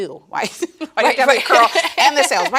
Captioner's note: both laughing